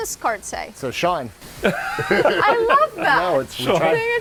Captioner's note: laughs